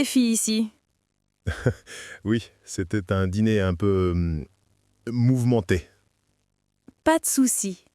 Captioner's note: laughs